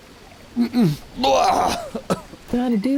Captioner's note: grunts